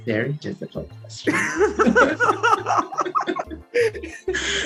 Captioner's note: laughter